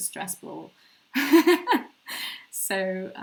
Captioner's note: laughing